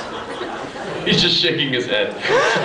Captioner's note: laughing; laughs